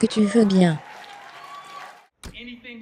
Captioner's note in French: acclamation de la foule; la foule applaudit